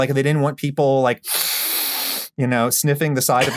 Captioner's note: sniffs deeply